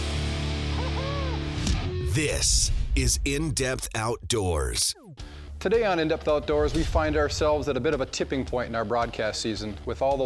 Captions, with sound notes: - [Voiceover] This is In Depth Outdoors. - Today on In Depth Outdoors, we find ourselves in a bit of a tipping point in our broadcast season.